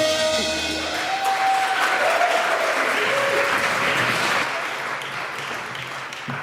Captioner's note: applause